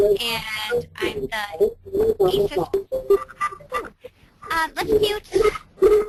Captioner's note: audio distortion